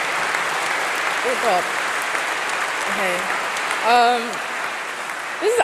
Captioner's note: applause